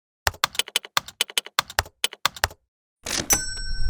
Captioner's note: keyboard keys clicking; cash register dings